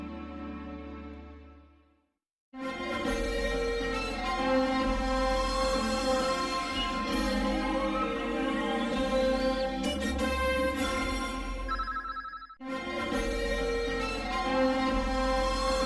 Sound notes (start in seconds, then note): 2.5 orchestral fanfare playing; 11.8 communication dial sounds; 12.5 orchestral fanfare plays